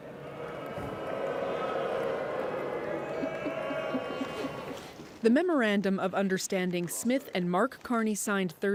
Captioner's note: booing